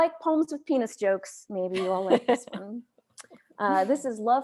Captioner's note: chuckles